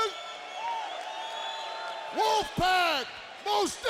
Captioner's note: audience cheers